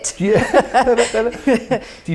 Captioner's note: chuckling